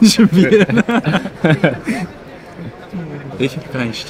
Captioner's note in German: Lachen